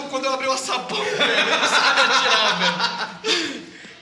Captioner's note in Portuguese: Risos